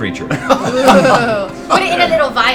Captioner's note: all laugh